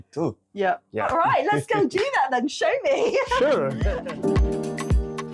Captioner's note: laughing; upbeat music